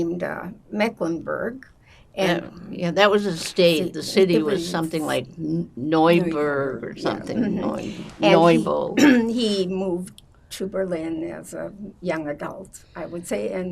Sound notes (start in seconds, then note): 8.1 mumbling; 9.2 clears throat